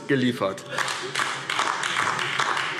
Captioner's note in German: Beifall DIE LINKE